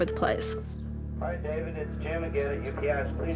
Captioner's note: on answering machine